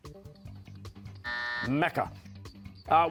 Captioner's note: buzzer